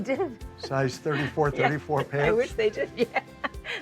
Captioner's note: laughs